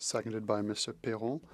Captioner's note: speaking French